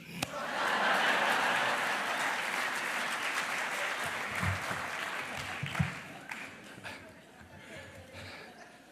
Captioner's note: laughter